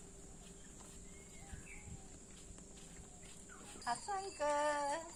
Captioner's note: birds chirping; speaking in foreign language